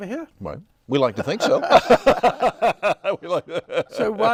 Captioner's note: laughs